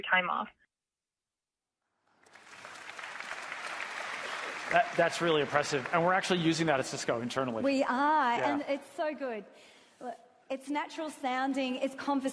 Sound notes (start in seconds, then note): 8.4 applause